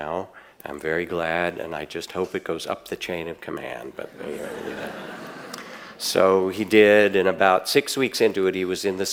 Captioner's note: audience laughs